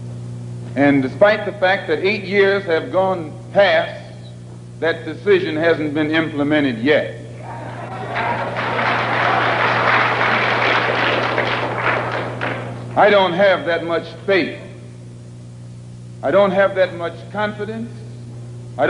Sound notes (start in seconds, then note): 7.4 applause from audience